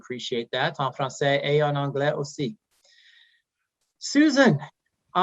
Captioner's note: speaking French